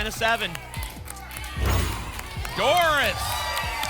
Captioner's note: cheering